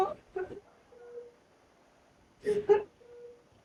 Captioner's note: Zion sobbing